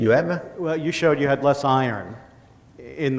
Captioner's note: voiceover